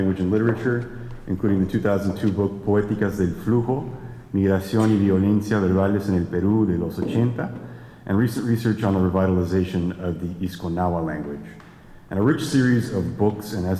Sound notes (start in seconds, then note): 2.5 speaking spanish